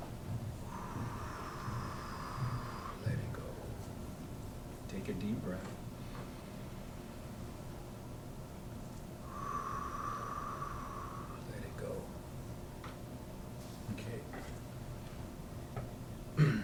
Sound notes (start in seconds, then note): 0.0 breathes in; 0.6 breathes out; 5.7 breathes in and out